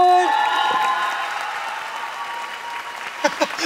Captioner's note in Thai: ปรบมือ